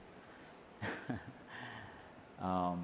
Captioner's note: slight laugh